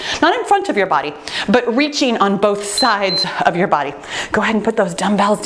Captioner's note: timer beeping